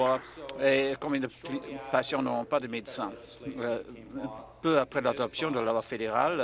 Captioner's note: applause